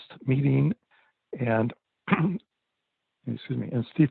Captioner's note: clears throat